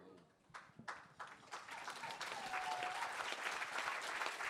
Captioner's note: applause